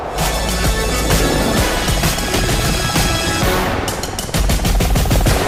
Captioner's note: helicopter whirring